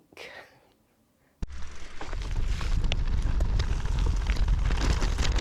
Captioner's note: wheels on gravel